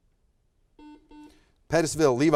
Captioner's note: buzzer buzzes